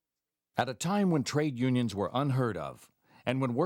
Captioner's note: voiceover